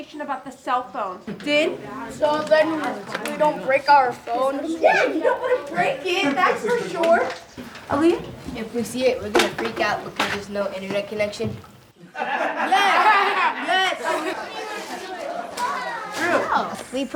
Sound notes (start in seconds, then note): 12.0 laugh